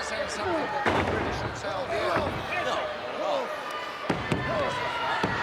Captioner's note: body thudding